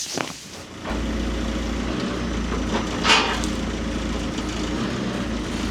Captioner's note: telehandler rumbles